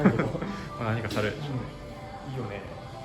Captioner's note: laughs